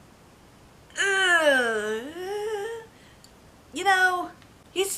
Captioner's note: noise of pain